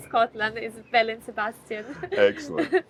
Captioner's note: chuckles